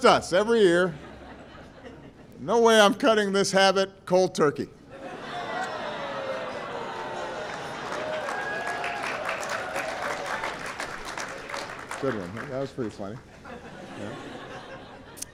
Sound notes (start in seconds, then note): 5.7 laughter and applause